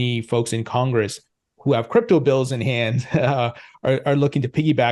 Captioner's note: chuckles